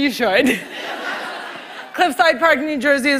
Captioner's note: laughter